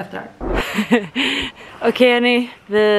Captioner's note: laughter